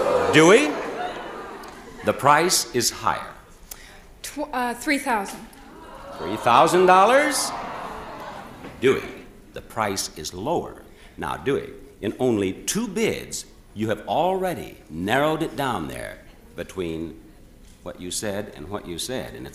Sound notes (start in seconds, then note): 5.6 audience oohs